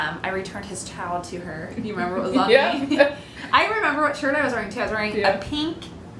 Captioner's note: laughter